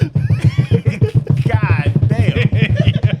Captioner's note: laughing